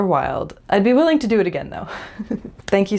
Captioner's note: laugh